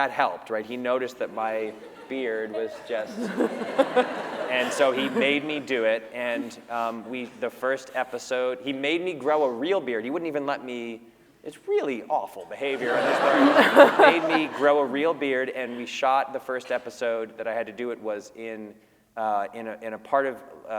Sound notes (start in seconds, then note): 12.7 laughter